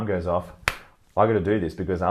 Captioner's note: fist smacks